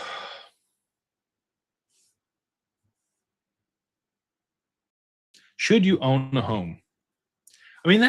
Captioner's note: sighs